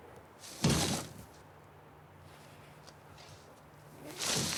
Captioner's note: wheelbarrow rumbling